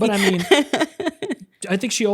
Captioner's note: laughs